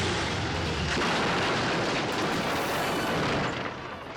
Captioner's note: engine roars; plane crashes